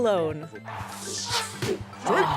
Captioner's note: whooshing